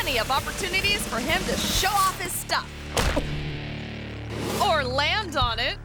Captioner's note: thuds; object whooshing